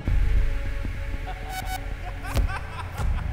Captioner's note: laughter